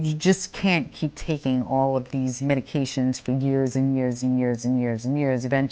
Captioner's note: none